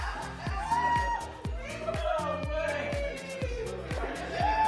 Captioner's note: talking